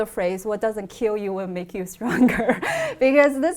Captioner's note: laughs